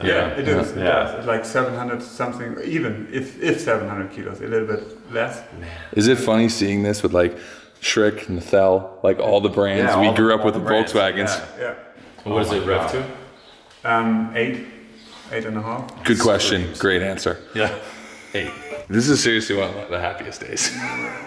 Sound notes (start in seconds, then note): 18.3 laughter; 20.5 laughter